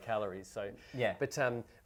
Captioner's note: scoffs